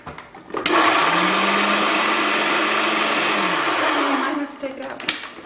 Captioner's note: loud food processor noise